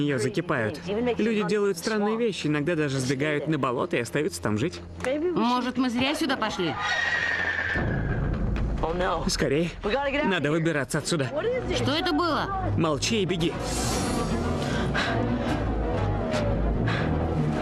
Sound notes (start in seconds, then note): 6.7 animal Snarls, Screeches; 16.2 panting